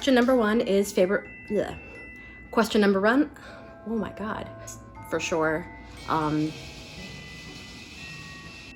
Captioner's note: blender noise